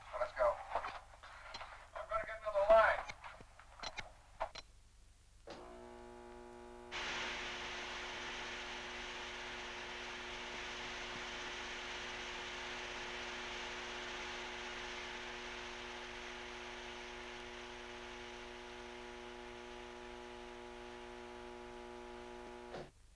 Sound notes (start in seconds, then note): 5.4 buzzing sound; 6.9 doors hissing